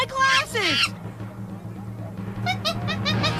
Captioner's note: monkey chattering